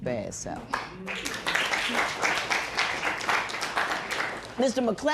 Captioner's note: applause